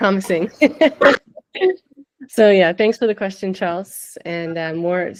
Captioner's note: laughs